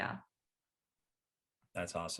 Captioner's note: none